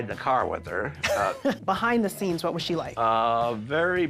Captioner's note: laughs